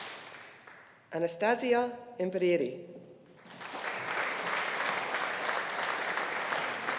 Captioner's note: audience applauding